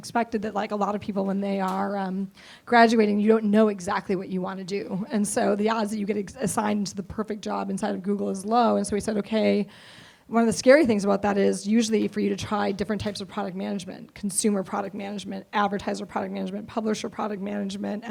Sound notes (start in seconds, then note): none